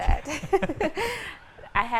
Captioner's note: both laughing